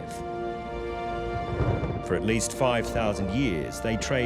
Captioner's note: thunder rumbles